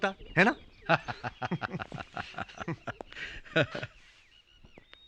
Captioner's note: laughing